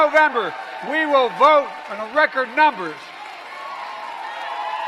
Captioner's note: applause